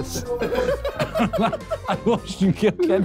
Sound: laughing

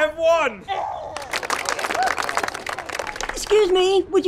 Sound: applause

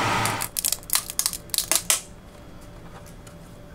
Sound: plastic cracking

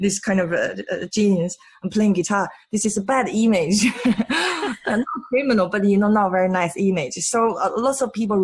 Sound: laughs

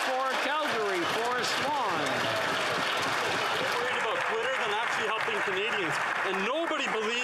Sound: applause

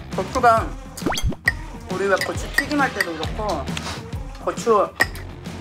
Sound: eating

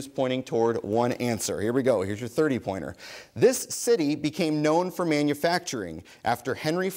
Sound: none

